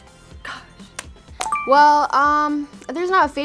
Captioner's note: bell chiming